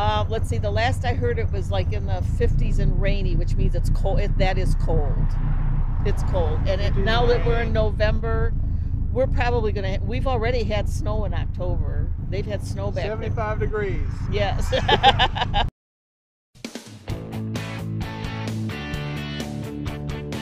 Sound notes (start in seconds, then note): 14.5 laughs; 17.2 upbeat music